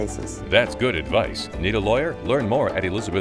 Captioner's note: automated Voice